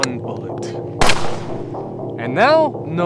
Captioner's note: gunshot booms